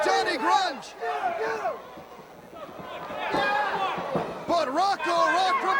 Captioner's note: crowd chatter